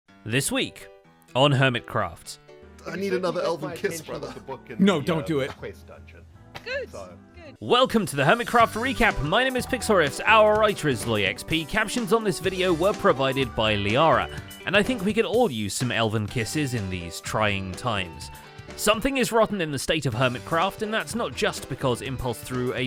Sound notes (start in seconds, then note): none